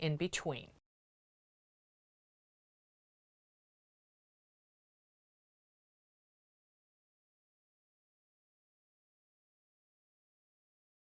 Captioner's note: no Sound Present